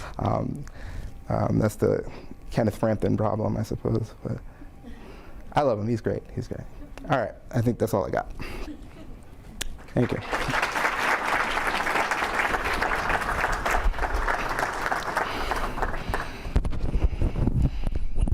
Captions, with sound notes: That's the Kenneth Frampton problem I suppose, but I love him, he's great, he's good. All right, I think that's all I got, thank you. (audience clapping)